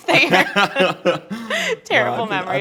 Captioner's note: laughing